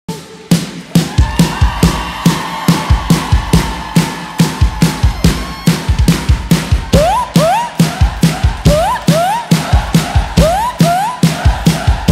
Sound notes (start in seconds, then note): 1.2 crowd cheering; 4.9 upbeat rock music